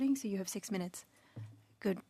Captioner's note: speaking French